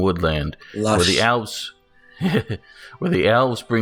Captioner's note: giggles